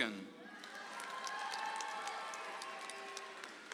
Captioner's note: audience applauds